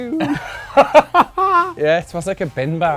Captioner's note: laughs